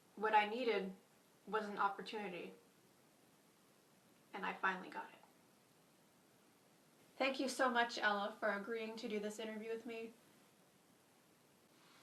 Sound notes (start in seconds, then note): none